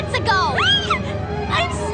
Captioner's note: shriek